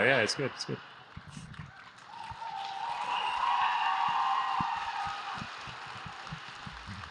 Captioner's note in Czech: Potlesk